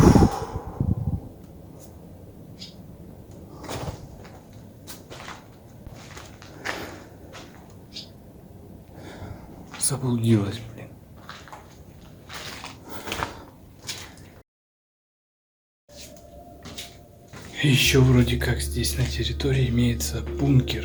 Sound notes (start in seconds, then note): 2.5 bird chirping; 16.0 sad music